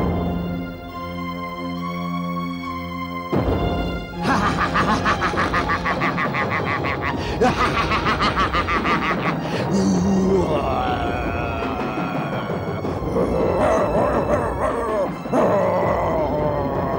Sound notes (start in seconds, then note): 4.2 laughing and mocking